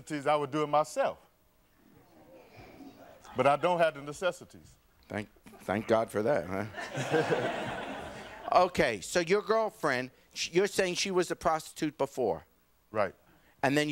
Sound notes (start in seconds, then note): 6.6 audience laughing